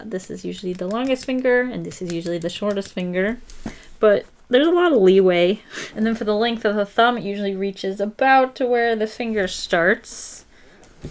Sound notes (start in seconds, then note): none